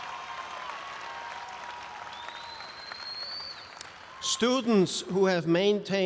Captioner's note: audience applauds and cheers